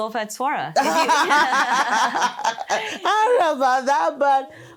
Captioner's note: both laugh